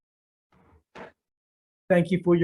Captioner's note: gavel pounds